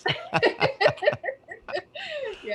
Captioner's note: group laughs